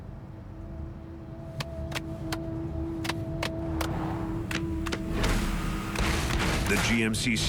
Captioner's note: hand clapping the song